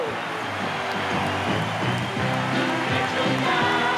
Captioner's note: cheering